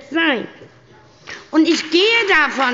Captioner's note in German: Beifall bei der SPD